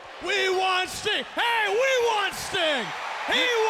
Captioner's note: audience cheers